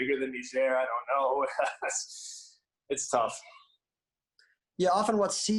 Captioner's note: laughs